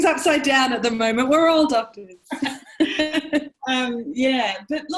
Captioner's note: laugh